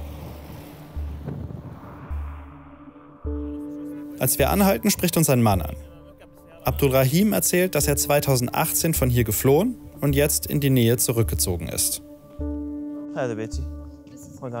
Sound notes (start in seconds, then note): 1.0 distant crashing